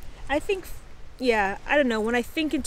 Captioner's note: none